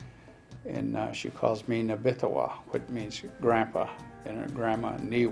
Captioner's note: foreign language